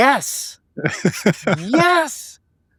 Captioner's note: laughing